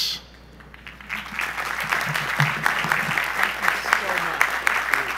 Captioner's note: audience applause